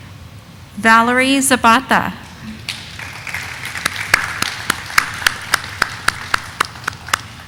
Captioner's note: audience applauding